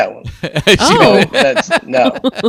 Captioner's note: group laughs